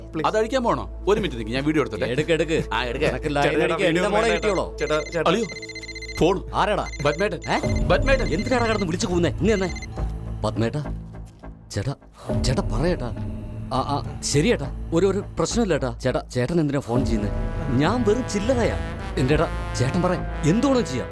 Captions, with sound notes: Uncle, are you going to remove it? Shall I record it? -Go ahead -Right away How dare you follow our girl? [phone rings] -Rascal! -Uncle... -Call for you -Who is it? -Chief Babji. -Huh? Chief Babji! Stop yelling! Give it to me Yes, chief Babji Yes, chief. Tell me Yes chief. No problem You don't have to trouble yourself calling me I am nothing. I mean.. I'm just a dummy compared to you